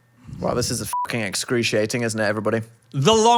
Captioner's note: beep